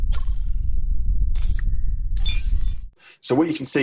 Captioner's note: digital beeping